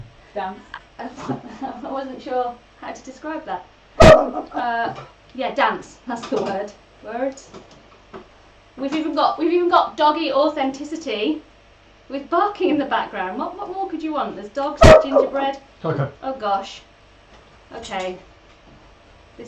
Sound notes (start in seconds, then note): 4.0 barking; 14.8 barking